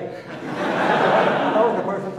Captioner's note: audience laughing